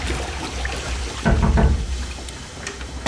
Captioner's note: knock on door